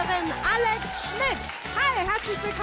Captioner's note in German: Jubel